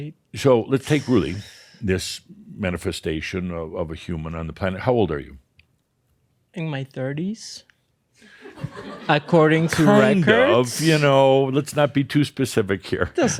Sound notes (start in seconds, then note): 7.4 some chuckles; 12.7 chuckles